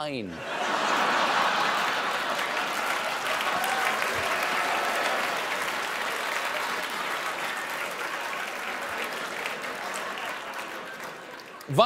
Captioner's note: laughter